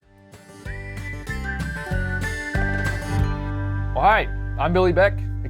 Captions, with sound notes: (light upbeat music) (person whistling) - Well, hi, I'm Billy Beck,